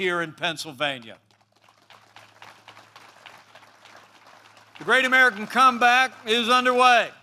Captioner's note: applause